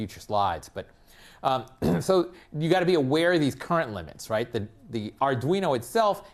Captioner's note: cough